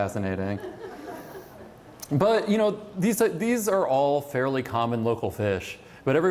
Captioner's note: laughter